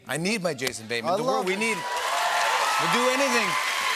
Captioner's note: cheering and applause